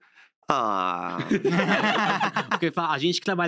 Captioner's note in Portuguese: risos